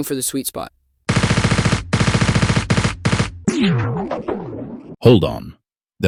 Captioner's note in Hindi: गैटलिंग तोप शूटिंग।